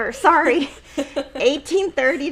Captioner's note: laughing